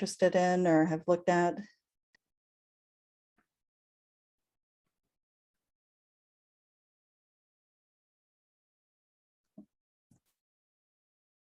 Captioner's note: silence